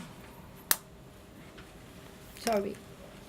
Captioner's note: needle popping